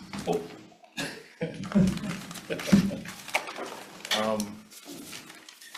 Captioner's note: laughs; paper rustles